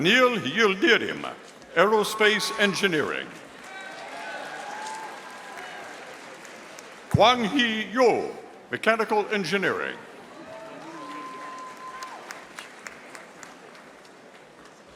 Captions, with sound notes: Anil Yildirema, Aerospace Engineering. (audience applauding) Quanghi Yo, Mechanical Engineering. (audience applauding)